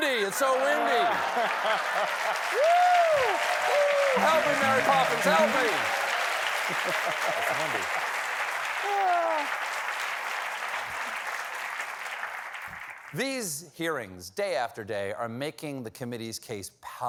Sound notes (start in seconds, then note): 10.3 applause